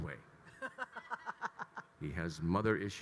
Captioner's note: laughing